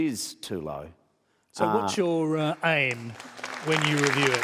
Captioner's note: applause